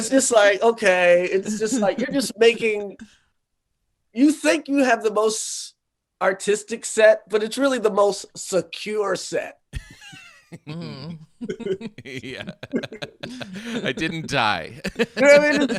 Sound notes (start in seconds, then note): 9.7 laughing